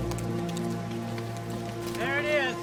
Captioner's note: birds chirping; horse hooves